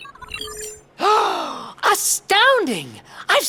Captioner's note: gasping